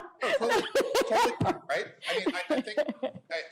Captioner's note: laughter